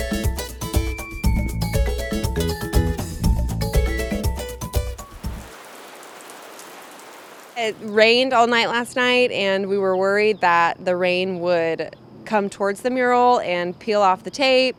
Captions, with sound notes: (rain pouring) It rained all night last night and we were worried that the rain would come towards the mural and peel off the tape.